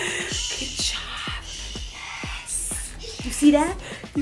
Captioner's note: whispers